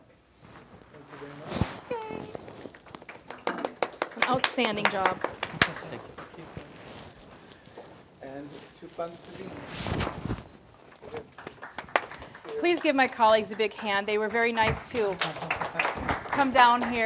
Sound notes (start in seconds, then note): 2.8 applause